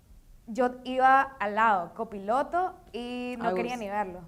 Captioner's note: speaking in foreign language